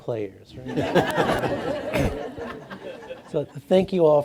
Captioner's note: audience laughing